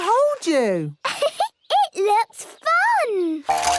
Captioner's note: giggles